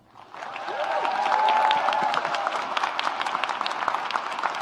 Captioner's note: audience applauds